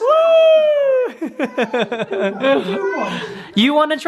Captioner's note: laughing